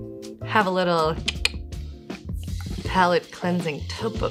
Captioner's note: clicks tongue